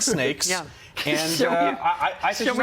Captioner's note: laughter